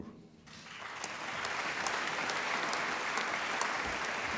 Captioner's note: applause